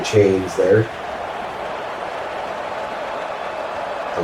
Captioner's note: crowd Noises